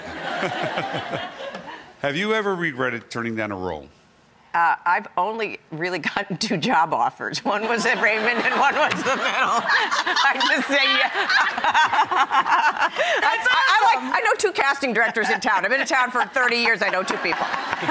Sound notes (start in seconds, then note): 0.0 audience laughs; 7.9 laughs